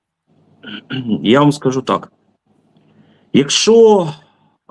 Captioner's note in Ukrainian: прочищення горла